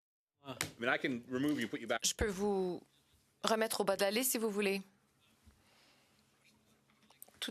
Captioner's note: speaking French